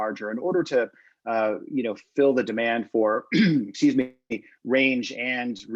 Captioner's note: clears throat